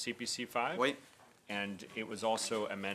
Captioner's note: speaking French